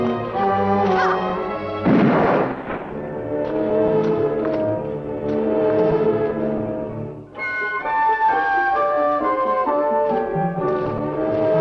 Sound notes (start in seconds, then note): 1.0 Liz grunting; 1.7 gun firing